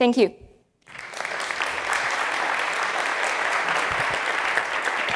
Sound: audience clapping

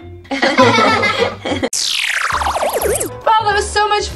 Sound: Ralph laughing; everyone laughing

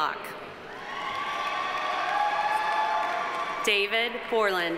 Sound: audience cheering; audience applauding

